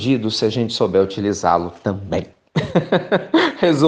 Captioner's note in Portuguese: risos